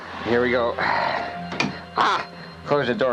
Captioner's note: door banging